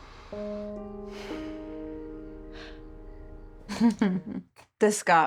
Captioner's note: both sighing